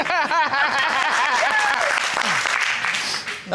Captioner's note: laughs